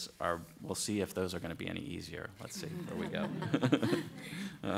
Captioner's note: laughter